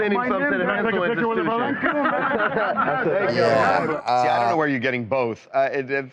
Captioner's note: laughter